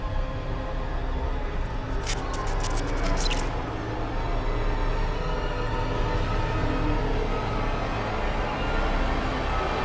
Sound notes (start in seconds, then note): 1.9 frightening music; 1.9 static crackling